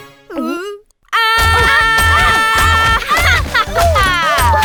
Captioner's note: gulping; shouting